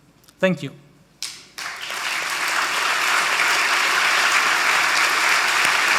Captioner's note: audience applauding